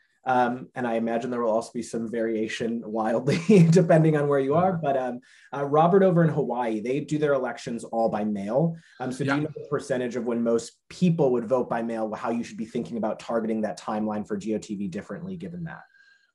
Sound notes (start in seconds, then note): 3.2 chuckles